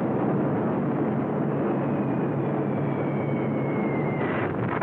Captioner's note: bombs whistling; explosion